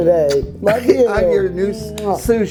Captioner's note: kiss smacking